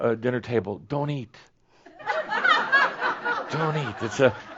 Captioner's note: laughter